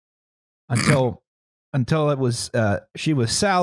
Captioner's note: snorts